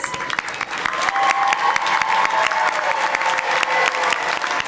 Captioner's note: audience applauding